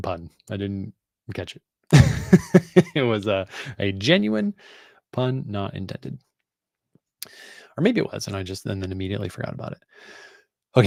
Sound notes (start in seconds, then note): 1.9 laughs